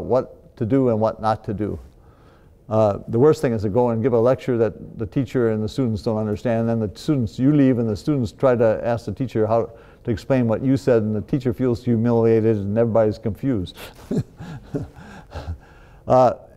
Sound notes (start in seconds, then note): 13.7 laughs